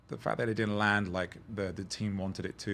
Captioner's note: none